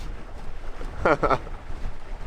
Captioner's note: laughing